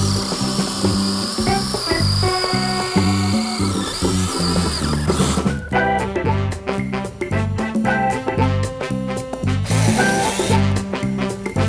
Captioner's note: drill whirring